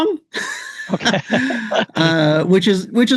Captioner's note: laughs